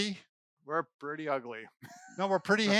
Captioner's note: laughs